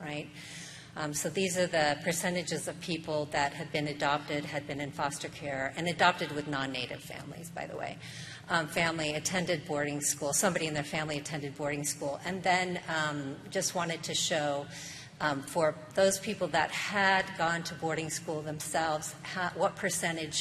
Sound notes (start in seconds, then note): none